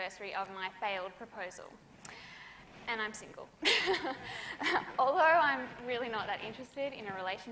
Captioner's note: laughs